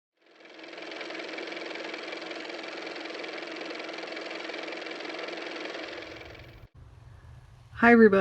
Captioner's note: car motor